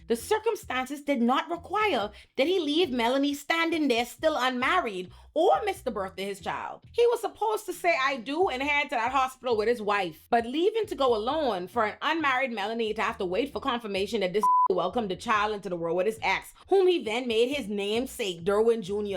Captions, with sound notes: The circumstances did not require that he leave Melanie standing there still unmarried or miss the birth of his child. He was supposed to say I do and head to that hospital with his wife. But leaving to go alone for an unmarried Melanie to have to wait for confirmation that this (beep) welcomed the child into the world with his ex, whom he then made his namesake Derwin Jr.